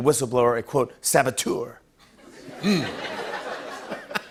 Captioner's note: laughter